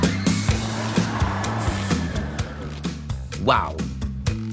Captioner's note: screaming